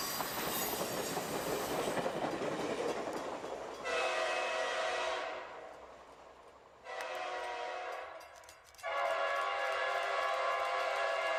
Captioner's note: train horn